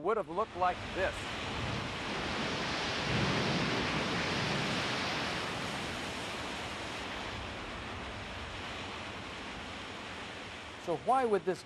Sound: sound of Rushing Water

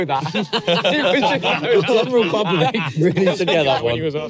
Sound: everyone laughing

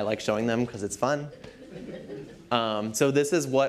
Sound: laughter

